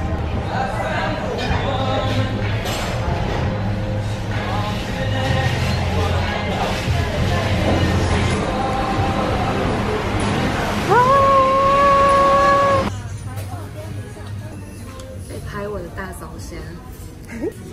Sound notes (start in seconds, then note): 10.8 cheers